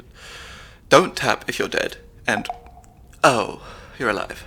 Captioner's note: earpiece beeps